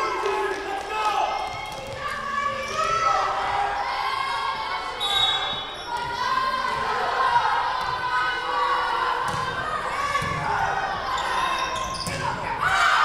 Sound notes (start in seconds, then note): 5.0 whistle blowing